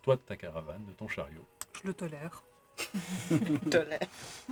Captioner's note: laughs